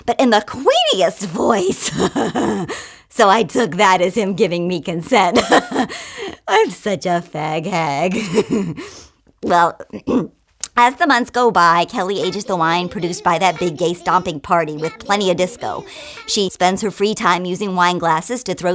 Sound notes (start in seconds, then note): 8.0 laughs; 9.9 clears throat